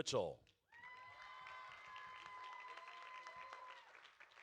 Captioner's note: audience cheering